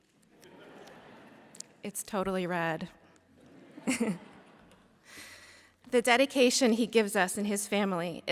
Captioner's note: laughter